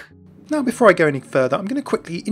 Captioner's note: voiceover